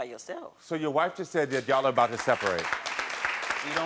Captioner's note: audience applauds